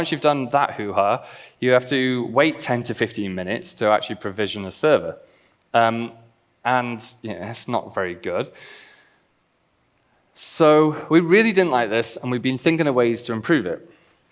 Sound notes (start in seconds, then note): none